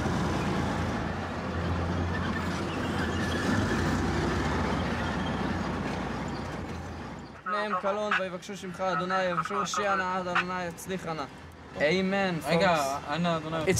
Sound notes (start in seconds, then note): 7.3 Hebrew spoken audio